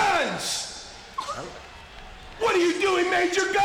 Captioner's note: sobs